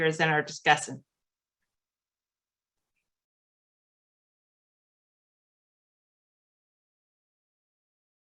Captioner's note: silence